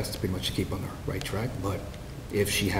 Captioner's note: none